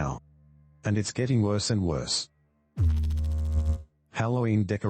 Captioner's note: electrical noise